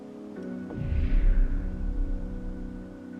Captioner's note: ghostly sound effect